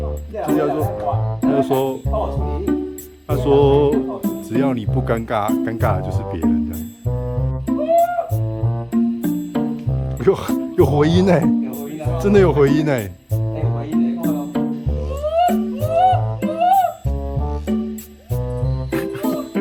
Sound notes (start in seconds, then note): 15.0 cries from the wild